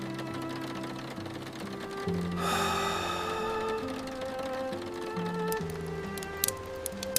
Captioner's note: rain streaking the window glass